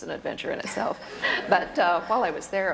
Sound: laughter

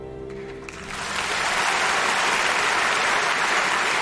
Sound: applause

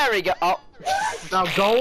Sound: monkey Scream

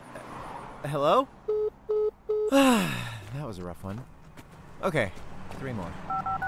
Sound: sighs

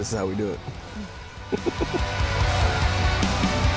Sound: laughs

